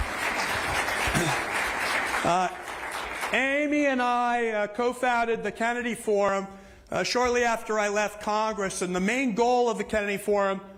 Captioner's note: applause